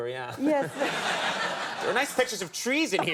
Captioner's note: audience laughing